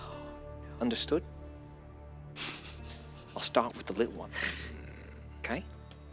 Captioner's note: Jethro growls